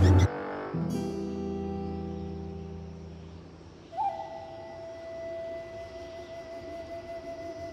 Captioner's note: wind blowing